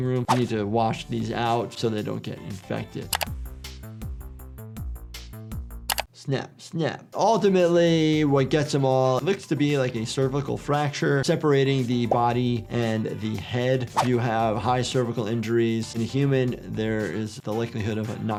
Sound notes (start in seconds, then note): 0.2 swooshing music; 3.1 keyboard clacking; 3.2 upbeat music; 5.8 keyboard clacking; 13.6 swooshing music